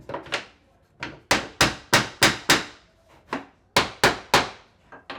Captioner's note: hammer pounding